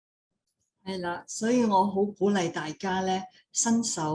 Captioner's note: speaking in foreign language; non-english speech